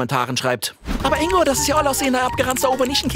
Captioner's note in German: Er liest gehetzt vor